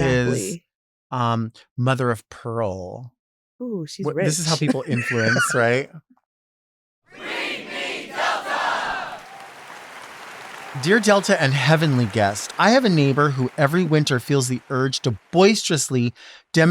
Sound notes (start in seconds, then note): 7.4 crowd; 9.3 audience applauds